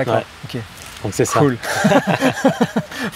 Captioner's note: laughs